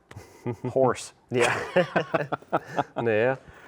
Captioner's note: both laughing